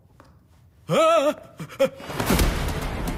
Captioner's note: Screams